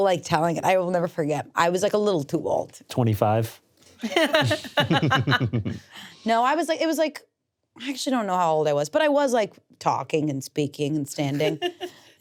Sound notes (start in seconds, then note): 4.0 laugh; 11.2 laughs